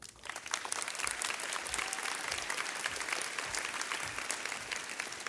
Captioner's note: audience clapping